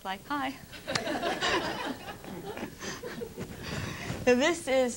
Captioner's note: laughter